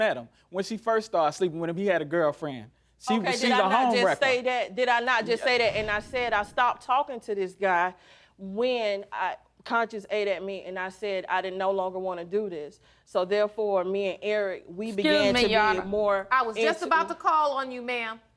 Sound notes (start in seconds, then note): none